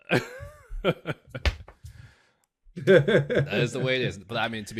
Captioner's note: both laughing